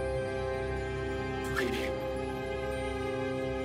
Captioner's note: bit-crushed